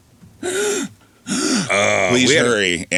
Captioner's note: gasping